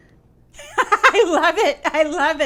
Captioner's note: woman laughing